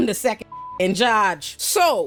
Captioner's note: beep